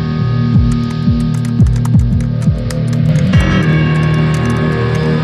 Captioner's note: Typing sound